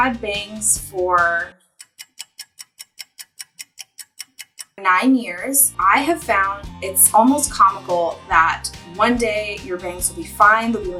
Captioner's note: clock ticks